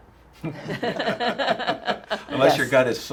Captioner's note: laughing